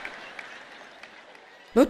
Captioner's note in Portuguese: audiência ri